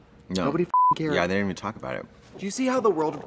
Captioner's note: beep